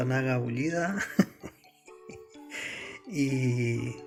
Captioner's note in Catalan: Riu